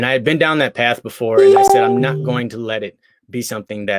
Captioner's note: beep